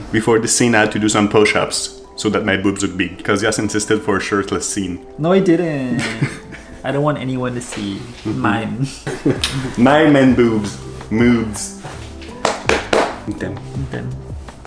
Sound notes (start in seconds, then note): 5.9 laughing; 9.4 kissing sound; 11.9 slapping; 13.7 speaking foreign language